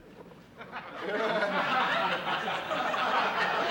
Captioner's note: laughter